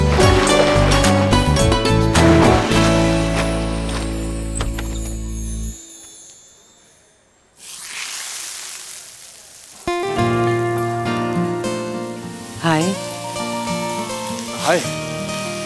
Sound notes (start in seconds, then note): 3.8 door opens; 7.6 frying